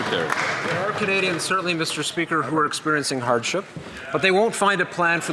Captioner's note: some Applause